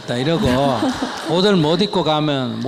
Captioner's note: audience Laughter